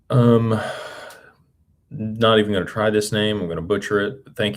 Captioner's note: sighs and gasps